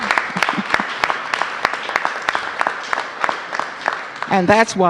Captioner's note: applause